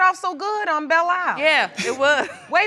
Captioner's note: laughs